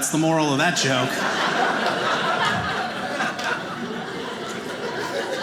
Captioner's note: audience laughing